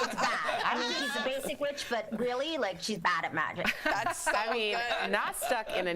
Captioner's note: laughter